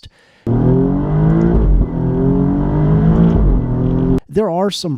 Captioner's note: engine noises